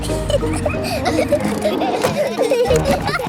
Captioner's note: children giggling